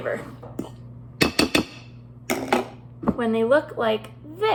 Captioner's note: fork banging on dish